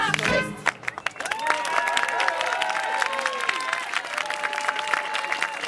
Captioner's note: cheering; applause; clapping